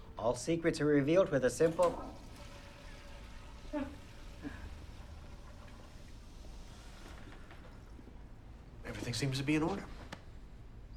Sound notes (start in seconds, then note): 0.8 toilet flushing; 4.0 Bryn chuckles